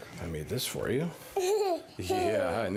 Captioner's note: child giggling